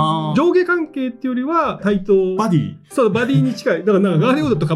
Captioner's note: laughs